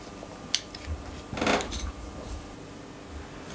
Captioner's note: creaking